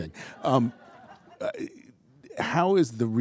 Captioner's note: attendees laughing